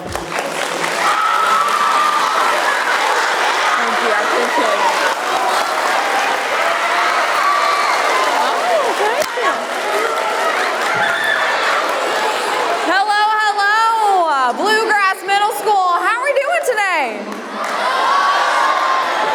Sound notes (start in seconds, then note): 0.2 applause; 5.2 crowd clapping; 16.3 crowd cheering